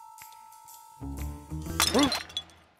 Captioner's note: crashing noise